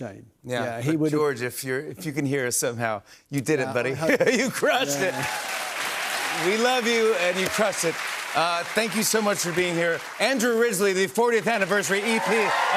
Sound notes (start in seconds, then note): 5.2 cheers and applause